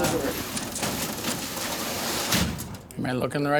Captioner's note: crates rattling